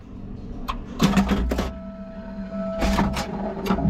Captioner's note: machine whirs